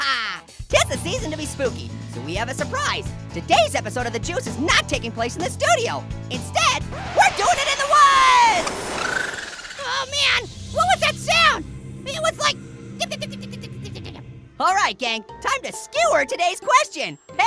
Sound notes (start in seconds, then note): 6.9 record scratch; 7.4 high pitched bipping